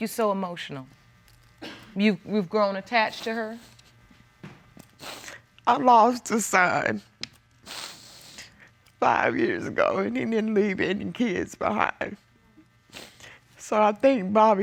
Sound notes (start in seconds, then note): 6.4 sobbing